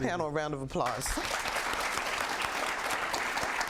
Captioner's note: applause